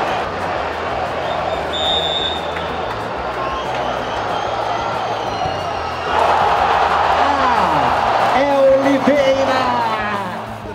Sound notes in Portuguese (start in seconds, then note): 1.4 sons da torcida; 6.1 gritos de gol